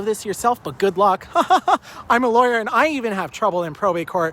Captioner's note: laughing